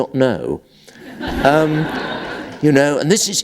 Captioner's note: laughter